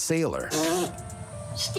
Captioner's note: blows raspberry